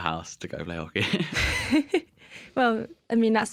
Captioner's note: laughter